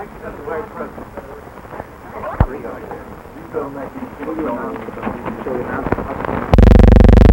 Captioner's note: background conversations